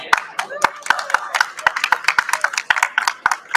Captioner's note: applause